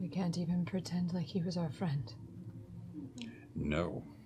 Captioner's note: none